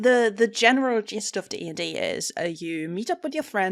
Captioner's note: none